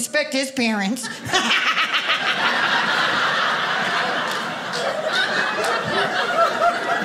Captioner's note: audience laughing